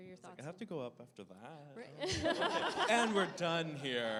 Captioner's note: laughter